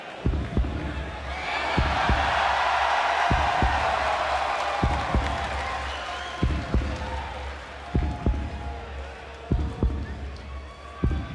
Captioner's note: cheers and applause